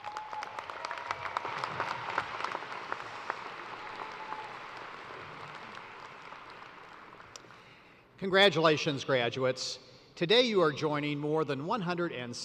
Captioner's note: applause